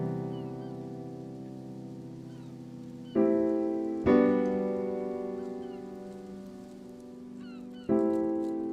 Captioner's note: seagulls cry; slow piano music